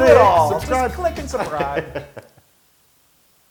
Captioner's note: laugh